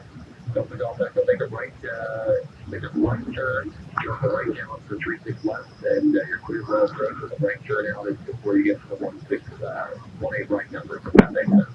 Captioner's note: radio